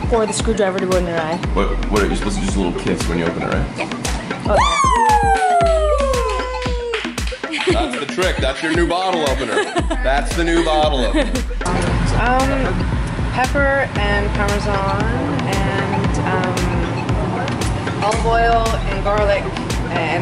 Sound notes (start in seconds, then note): 4.4 yelling & celebrating